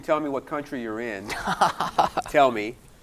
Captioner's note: laughing